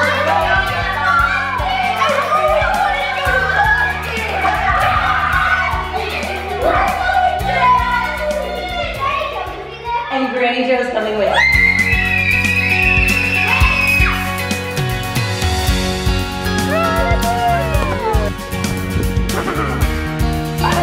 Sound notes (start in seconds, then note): 0.1 kids screaming; 11.2 kids screaming; 14.1 upbeat music